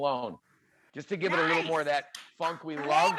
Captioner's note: claps